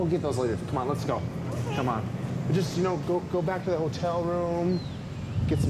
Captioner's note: none